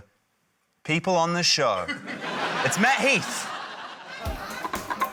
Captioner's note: laughter